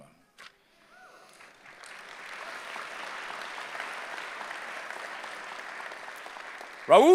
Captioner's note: applause